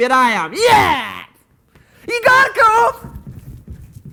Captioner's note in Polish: krzyk